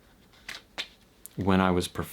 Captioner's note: cards cutting